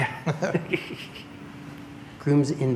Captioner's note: chuckles